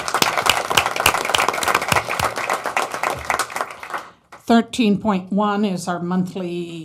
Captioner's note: applause